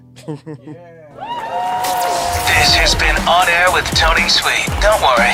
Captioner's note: cheering and applause